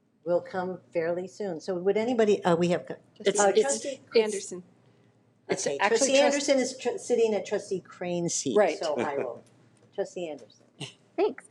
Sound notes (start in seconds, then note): 3.2 group chattering